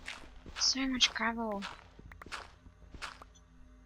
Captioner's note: gritty digging noises